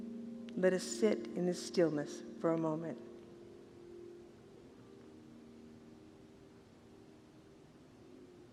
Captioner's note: silence